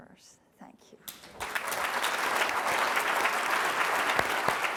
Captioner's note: applause